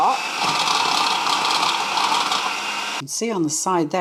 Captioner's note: food processor whirring